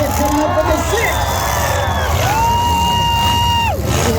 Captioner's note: crowd screams; cars hit; crowd yells; engine noise, crowd noise